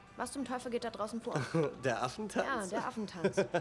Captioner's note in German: lacht